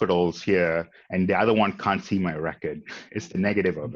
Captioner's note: chuckles